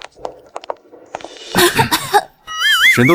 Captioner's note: cough, cough